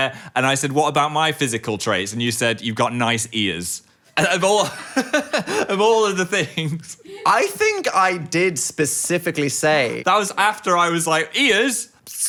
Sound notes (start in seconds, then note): 4.2 laughing